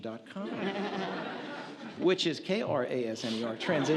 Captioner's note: audience laughs